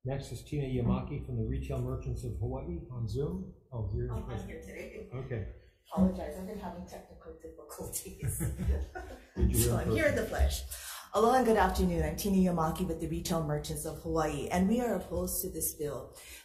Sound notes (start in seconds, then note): 7.9 chuckles